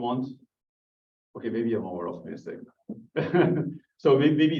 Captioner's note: laughs